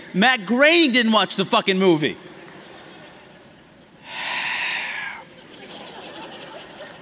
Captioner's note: laughter